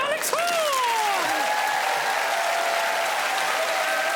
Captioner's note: cheers and applause